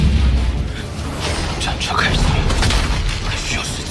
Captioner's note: the war chariot starts